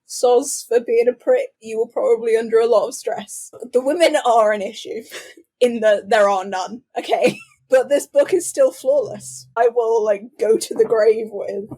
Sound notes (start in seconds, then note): 3.4 laughing